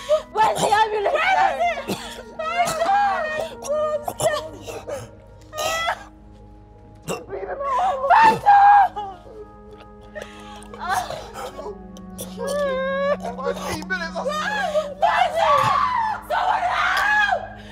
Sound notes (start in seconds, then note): 1.8 screaming; 5.5 screaming, weeping; 10.6 crying; 14.2 screaming